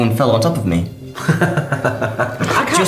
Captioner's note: laughing